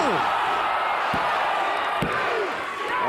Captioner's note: crowd cheering; hand pounding